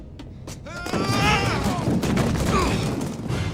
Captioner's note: yell